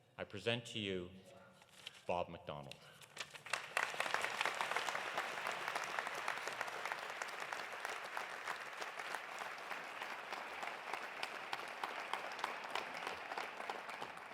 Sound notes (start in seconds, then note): 3.7 audience applauding; 10.9 applause continues